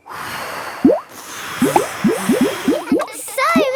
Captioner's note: all blowing